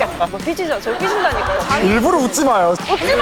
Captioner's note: yelling